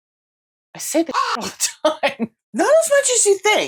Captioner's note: caw